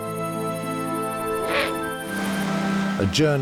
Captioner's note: owl hoots